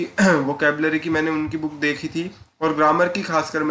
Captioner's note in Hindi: गला साफ़ करने की आवाज़